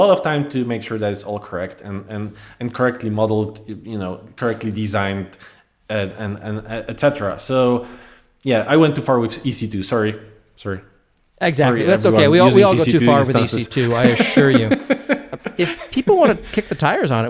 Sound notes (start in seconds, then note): 15.3 laugh